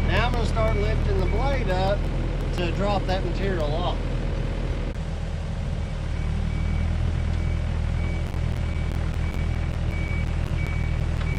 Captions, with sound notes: And I'm just gonna start lifting the blade up, to drop that material off. (excavator grading)